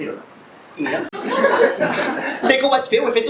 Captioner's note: laughs